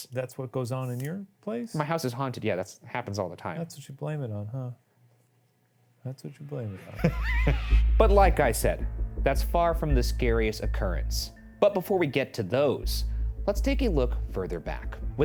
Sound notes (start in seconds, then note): 6.8 laughs